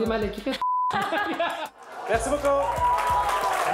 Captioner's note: laughs; applause